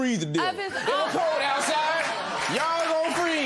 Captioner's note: laughter